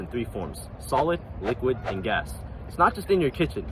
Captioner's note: words whooshing